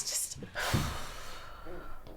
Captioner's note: sighs